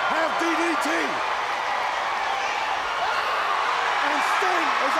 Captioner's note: crowd cheering